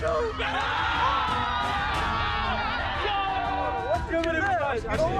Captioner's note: everyone cheers; upbeat music